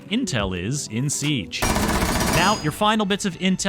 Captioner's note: gunfire